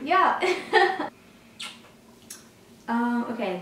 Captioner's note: laughs